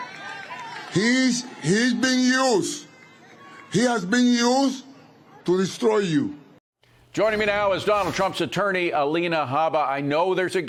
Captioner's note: applause